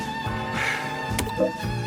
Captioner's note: click